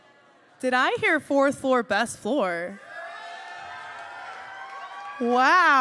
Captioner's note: cheers